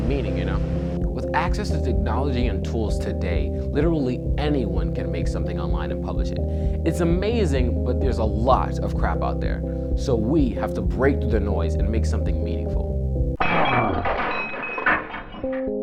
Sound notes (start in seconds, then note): 13.4 glass breaking